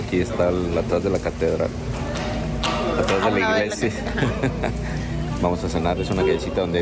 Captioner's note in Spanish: risas